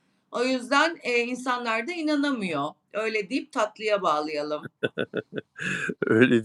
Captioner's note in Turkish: kahkaha